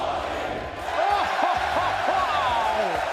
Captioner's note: crowd; crowd cheering; commentator laughing